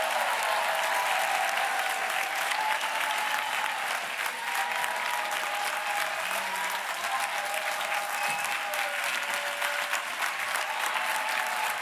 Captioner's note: applause